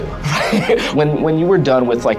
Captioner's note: all laughs